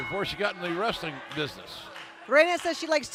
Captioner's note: bell ringing